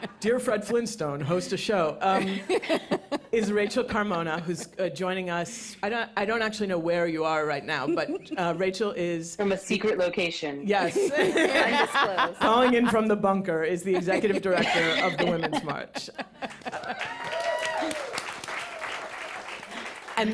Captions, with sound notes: Dear, Fred Flintstone, host the show. Um. [laughter] Is Rachel Carmona who's, uh, joining us. And I-I don't actually know where you are right now, but Rachel is-- In a secret location. -Yes. [laughter] -Undisclosed. Calling in from the bunker is the Executive Director of the Women's March. [applause]